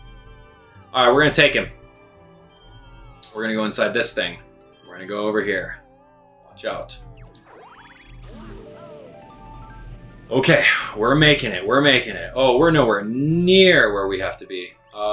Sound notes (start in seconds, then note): 7.4 gaming sounds; 7.4 instrumental music